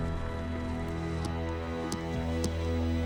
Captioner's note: thudding